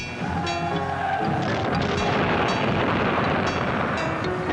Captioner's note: soldier shouting in foreign language; soldiers yelling